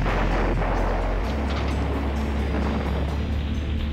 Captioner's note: explosion